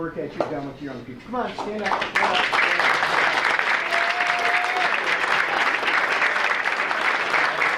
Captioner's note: audience applauding